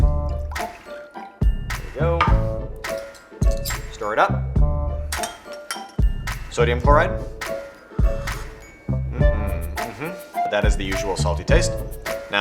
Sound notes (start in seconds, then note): 0.1 playful music; 8.1 water slurping